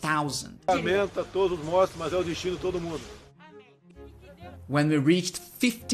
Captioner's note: speaking portuguese